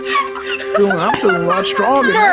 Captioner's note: laughing